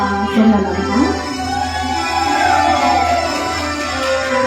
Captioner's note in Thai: ปรบมือ